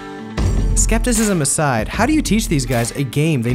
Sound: voiceover

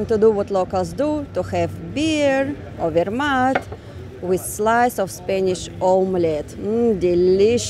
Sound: street noise

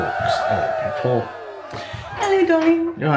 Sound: cheerin

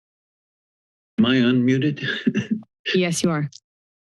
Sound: laugh

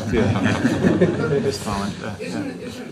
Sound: laughter

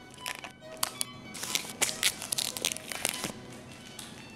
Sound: tape crackles

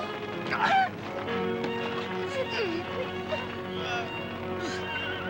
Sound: Billy grunting

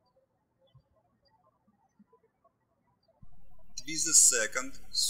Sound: birds chirping

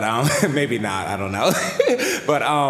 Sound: laughter

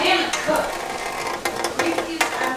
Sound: rain tapping on metal bucket

